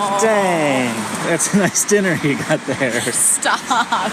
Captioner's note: embarrassed but laughing; laughing